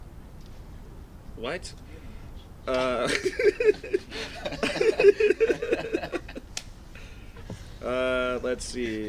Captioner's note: laughing